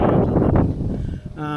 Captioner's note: metal clanking